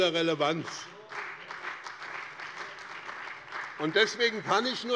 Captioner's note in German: Beifall bei dem BÜNDNIS 90/DIE GRÜNEN und der CDU